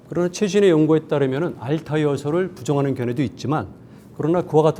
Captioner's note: speaking in Korean